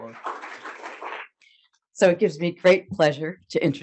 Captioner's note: audience applauding